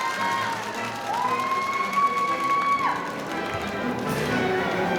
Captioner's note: audience cheering; audience applauding